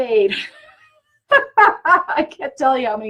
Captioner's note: laughs